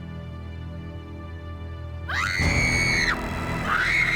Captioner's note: screaming